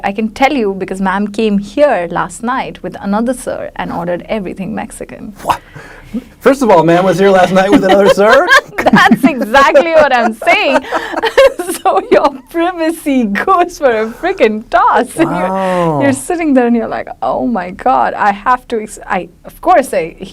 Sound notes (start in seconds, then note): 7.5 laughs; 10.8 laughs loudly